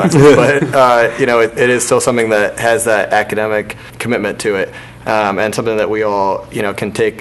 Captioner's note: laughter